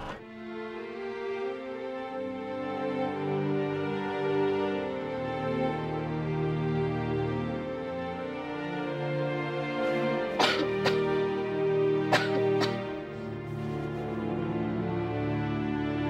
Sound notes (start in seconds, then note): 9.8 coughing